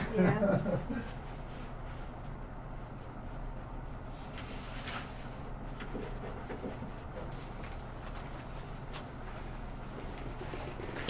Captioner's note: laughs